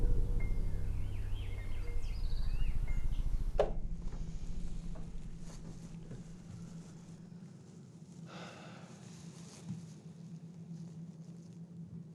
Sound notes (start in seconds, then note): 1.7 birds chirping; 8.3 sighs